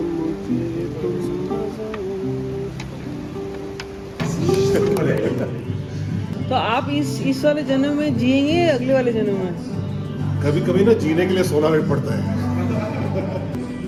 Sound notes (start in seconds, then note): 4.8 laughter